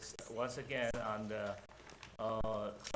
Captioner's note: none